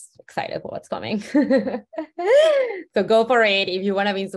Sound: laughs

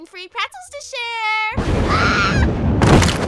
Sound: thunder; screams

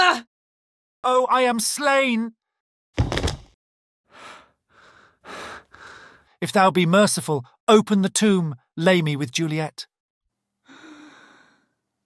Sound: falls

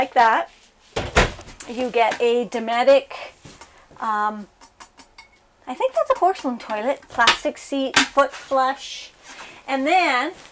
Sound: taps on bowl

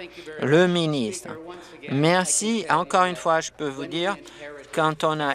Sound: applause

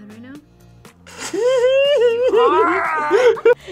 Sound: laughs

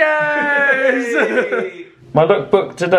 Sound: laughing

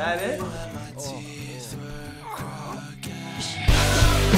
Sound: goons #2 and #3 groan

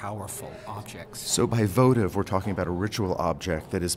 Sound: voiceover

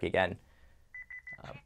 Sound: beeping

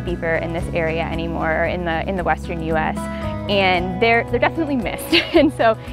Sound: laughs

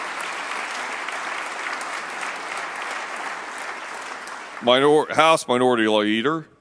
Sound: applause

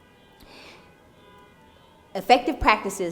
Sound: cars honking

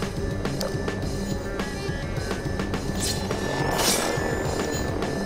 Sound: Manhack blades whirring

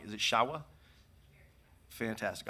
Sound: speaking distantly

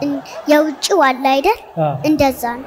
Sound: laughter

